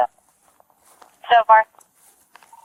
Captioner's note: radio chatter